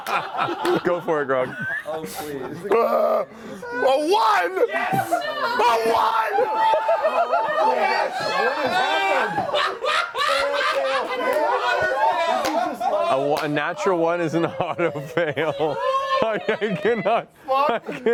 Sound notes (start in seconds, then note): 0.0 laughter; 7.1 laughter and yelling